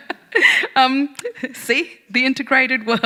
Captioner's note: laughing